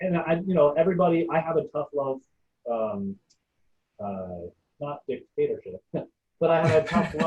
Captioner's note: laughing